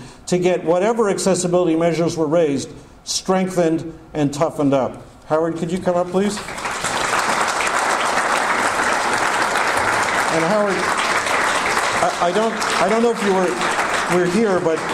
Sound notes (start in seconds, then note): 6.3 audience applause